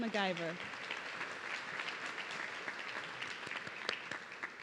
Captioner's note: audience clapping